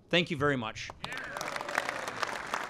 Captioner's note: applause